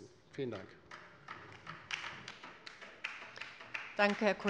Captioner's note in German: Beifall bei der LINKEN